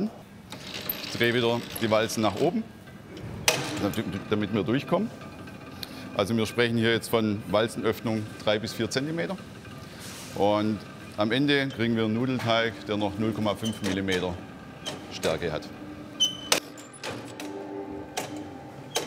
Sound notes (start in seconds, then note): 15.8 squeaking, rattling